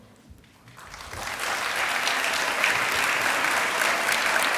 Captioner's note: applause